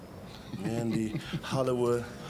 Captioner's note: Hulk chuckling